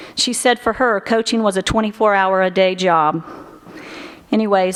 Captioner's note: none